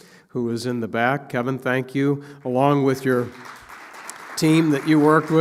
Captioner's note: applause